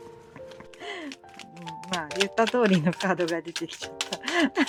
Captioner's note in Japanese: 息をのむ音